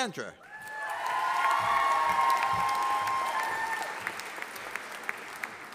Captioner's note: audience applauding